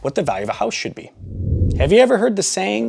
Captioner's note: air whooshing